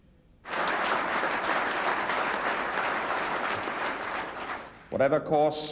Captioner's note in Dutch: publiek applaudisseert